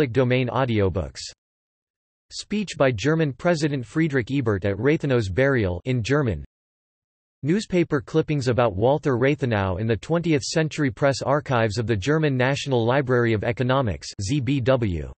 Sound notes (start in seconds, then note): 6.0 in German